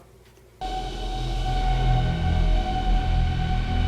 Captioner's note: alien background noise